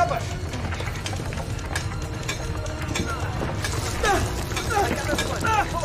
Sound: stone cutting

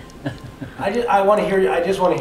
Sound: man laughs

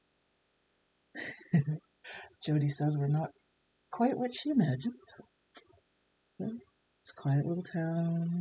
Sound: laughs

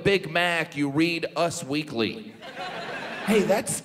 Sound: audience laughs

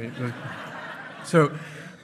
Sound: hearty laughing

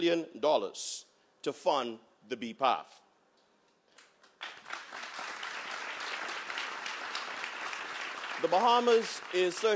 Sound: applause

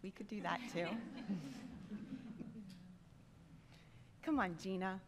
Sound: laughter

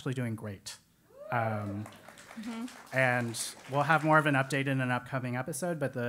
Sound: applause

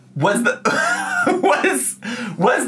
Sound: laughs

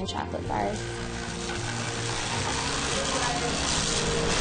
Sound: machine rumbles

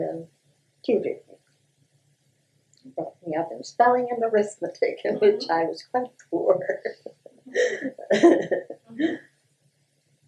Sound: laughter

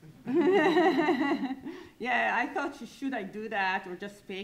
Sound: lightly laughs

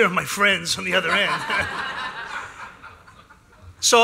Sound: laughter

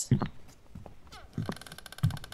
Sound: footsteps

